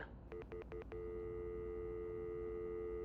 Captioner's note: dial tone